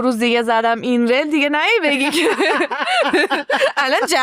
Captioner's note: laughs